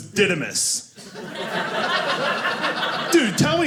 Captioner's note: audience laughing